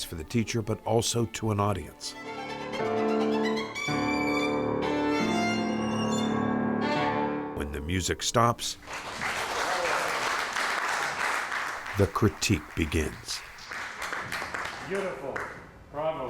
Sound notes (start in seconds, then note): 2.7 fast-paced violin music; 8.8 audience applauds